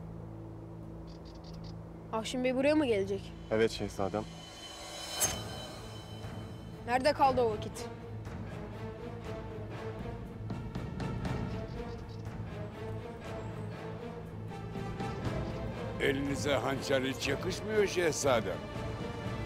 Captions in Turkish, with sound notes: Afşin Bey buraya mı gelecek? Evet Şehzadem. (Hançer sesi) Nerede kaldı o vakit? (Müzik - Vurmalılar ve yaylılar) Elinize hançer hiç yakışmıyor Şehzadem.